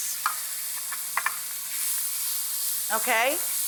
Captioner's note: pan sizzles